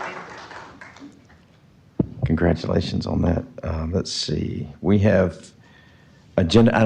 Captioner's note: applause